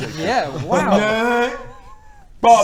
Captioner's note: derpy noises